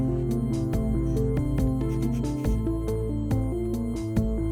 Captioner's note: pencil scratching